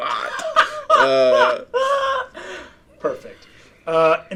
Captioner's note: laughing